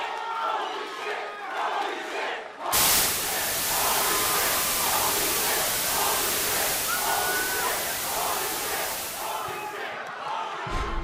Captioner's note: fans chanting